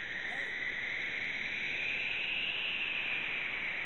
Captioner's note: distant voice pleading for help